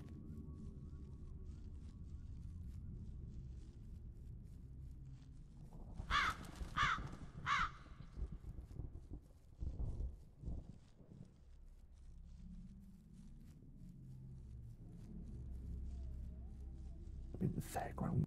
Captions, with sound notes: (cawing) A bit of a background.